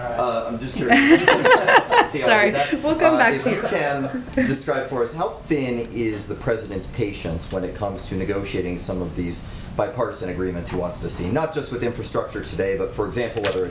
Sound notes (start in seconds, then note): 0.8 laughter